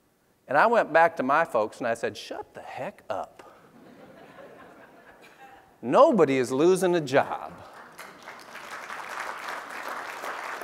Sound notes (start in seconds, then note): 5.5 laughs; 7.6 applause